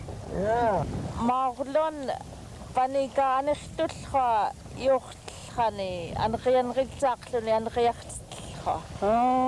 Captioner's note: speaking yupik